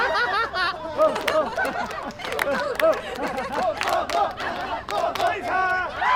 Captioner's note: hands clapping; people laughing